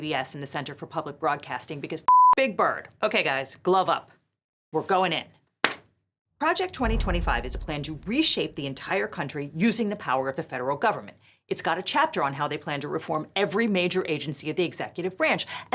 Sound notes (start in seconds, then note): 2.1 beep